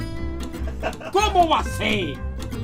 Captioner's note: hahahah